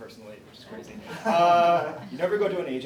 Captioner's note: laughs; laughs